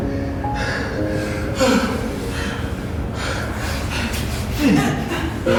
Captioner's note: Chris chuckles; gentle piano music; couple panting